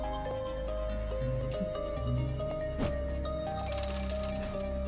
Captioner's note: humming along